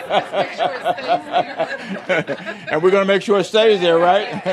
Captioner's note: laughter